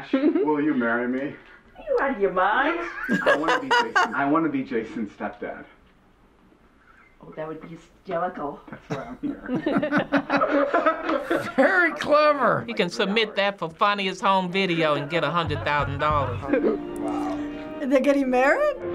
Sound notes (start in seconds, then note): 0.0 laughs; 2.8 laughs; 9.2 chuckles